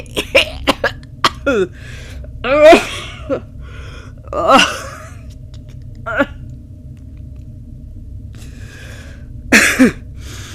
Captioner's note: choking, coughing